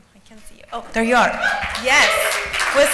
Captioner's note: applause